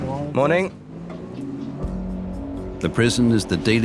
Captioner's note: voiceover